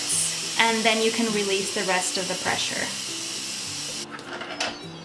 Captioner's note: hiss